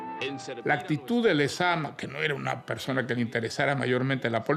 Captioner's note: speaking Spanish